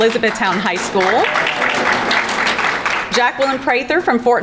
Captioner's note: crowd clapping; background chattering